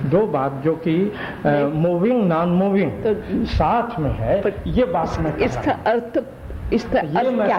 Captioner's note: discussion in Hindi